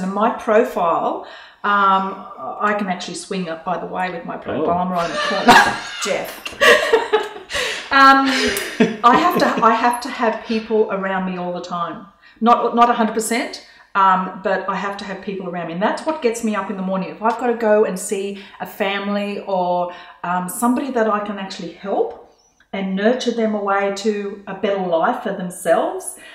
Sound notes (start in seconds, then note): 6.9 laughing